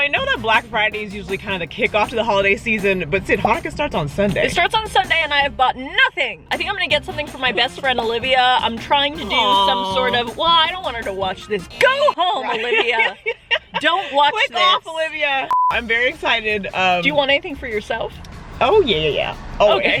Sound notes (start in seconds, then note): 13.7 laughing; 15.5 beeping